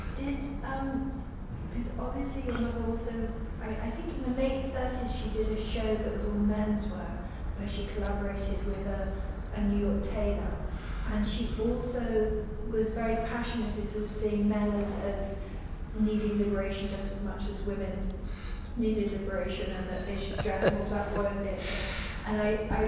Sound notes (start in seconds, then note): 20.0 laughter